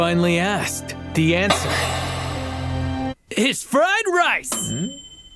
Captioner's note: lid clinks; bell dings